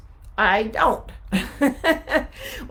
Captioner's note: laughing